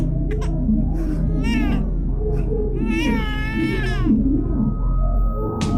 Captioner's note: baby crying